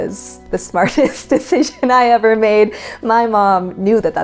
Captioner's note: laughs